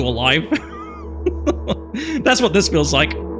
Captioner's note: laughs